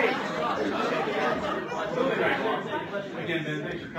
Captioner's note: laughter